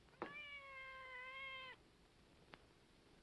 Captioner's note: cat meows